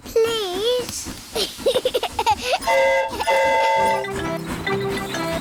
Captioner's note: giggles; train horn toots